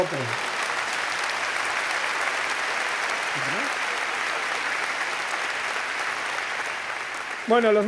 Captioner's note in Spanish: Aplausos